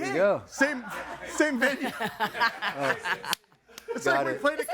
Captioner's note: laughing